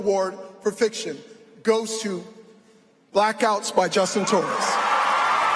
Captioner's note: applause